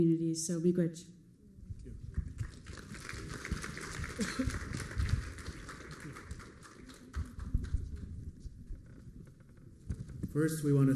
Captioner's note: applause